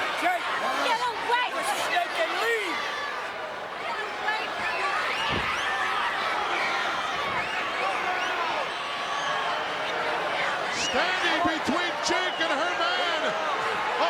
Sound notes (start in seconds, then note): 5.4 crowd yelling